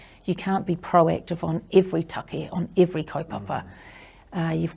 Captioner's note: none